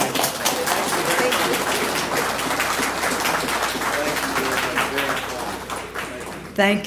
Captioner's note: applause